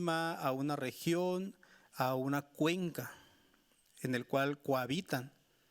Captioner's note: speaking Spanish continues